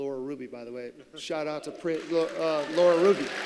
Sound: applause

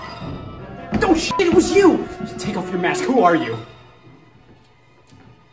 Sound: beep

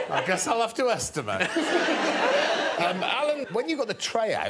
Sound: all laughing

